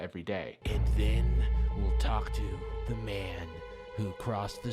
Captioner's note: voiceover